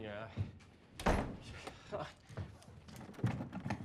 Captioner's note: door slams close